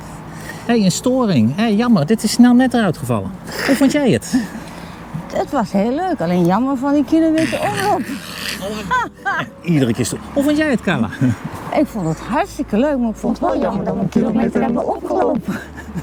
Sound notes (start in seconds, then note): 8.5 distorted sound; 11.6 disturbed voice